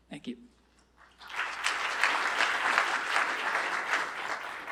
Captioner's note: applause